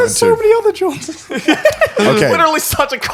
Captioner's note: laughing